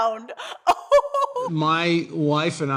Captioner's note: laughter